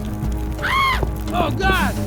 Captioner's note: shrieks femininely